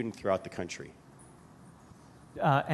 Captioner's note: pause